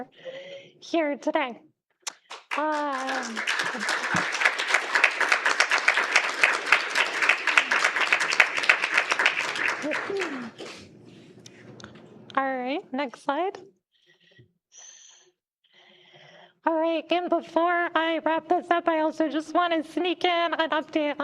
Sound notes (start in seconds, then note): 5.1 applause